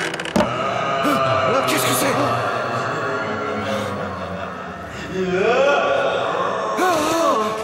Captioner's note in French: hurlements de fantômes :O